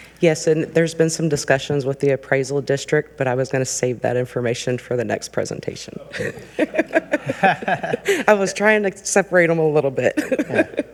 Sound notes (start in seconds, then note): 6.1 laughs; 6.1 people chuckle